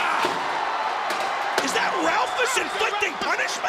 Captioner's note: crowd chatter